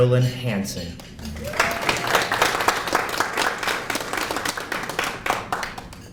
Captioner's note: applause